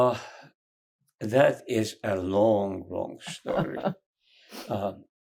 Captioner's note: laughing